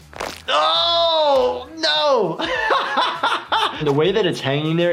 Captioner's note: yelling; laughs